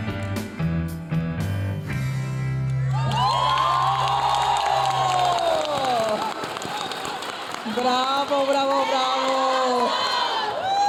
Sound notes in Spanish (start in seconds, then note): 2.8 aplausos y vítores de las graduadas